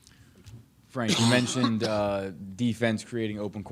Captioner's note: coughs